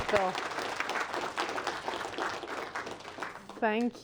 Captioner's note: applause